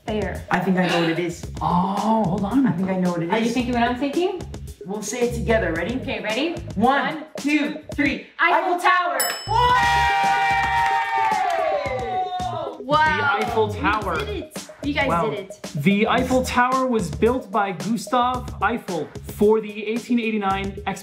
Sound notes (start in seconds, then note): 9.2 bell dings; 10.2 clapping